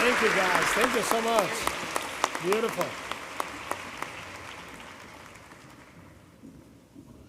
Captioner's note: applause